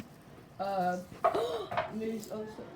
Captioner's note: gasp